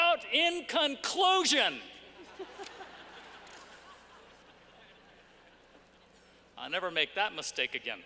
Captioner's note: laughter